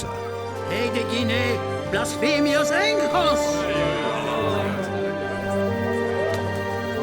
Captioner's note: suspenseful music; man shouting in Greek